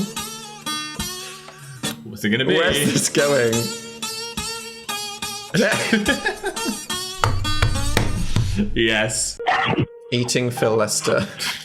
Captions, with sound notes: - Who's it gonna be? - Where's this going? (laugh) - Yes. - Eating Phil Lester.